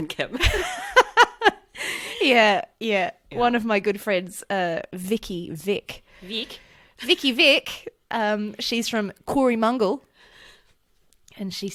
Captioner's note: laughs